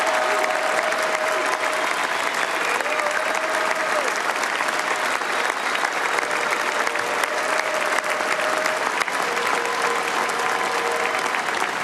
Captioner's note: applause